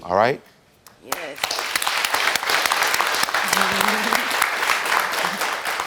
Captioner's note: audience applauding